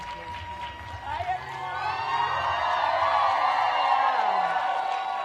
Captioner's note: applause